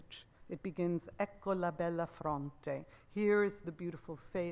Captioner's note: speaks Italian